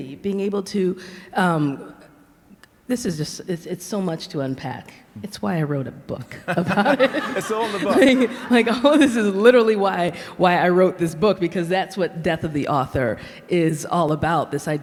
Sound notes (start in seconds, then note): 6.4 laughs; 6.4 audience laughs